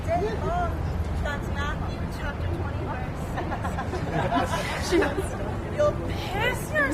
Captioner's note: laughter